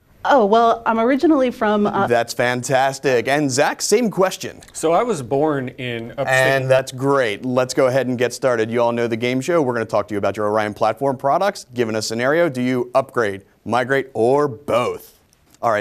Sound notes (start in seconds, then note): none